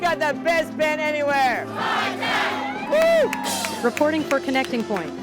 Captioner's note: cheering